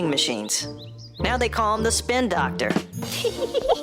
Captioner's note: chuckles